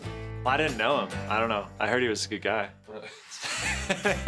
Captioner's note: laughing loudly